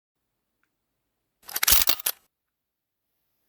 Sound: shutter sound

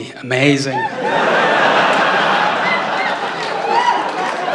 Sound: laughter

